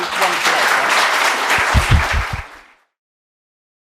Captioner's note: students applaud